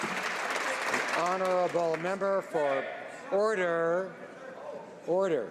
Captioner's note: some Applause